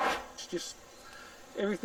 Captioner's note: air swooshes